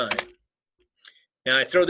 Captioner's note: keyboard clicking